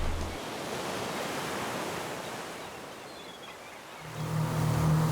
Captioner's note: seagulls squawking